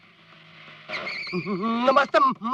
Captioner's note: brakes squeal